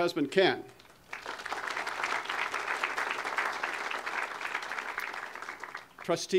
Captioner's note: audience applause